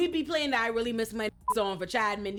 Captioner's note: beep